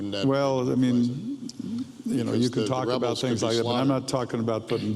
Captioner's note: overlapping chatter